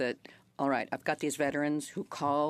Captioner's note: speaking French